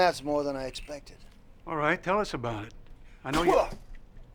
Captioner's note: spits